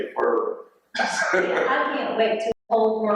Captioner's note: man laughing